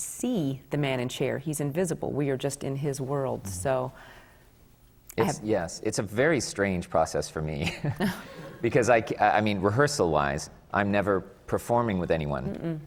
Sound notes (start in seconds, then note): 7.5 laughs